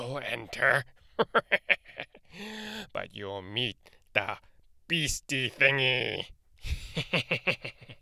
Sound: evil laugh

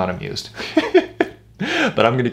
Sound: chuckles

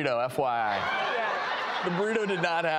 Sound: audience laughs

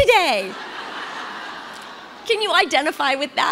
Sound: congregation laughs

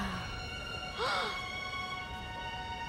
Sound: groaning; gasping

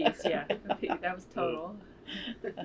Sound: laughter

